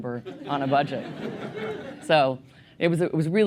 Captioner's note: laughter